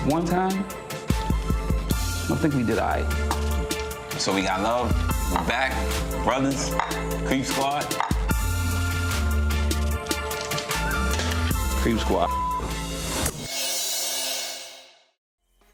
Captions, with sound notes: one time, I think we did all right. - So we got love? - We're back to brothers? Creep Squad? (upbeat music) (glasses clinking) - Creep Squad (beep).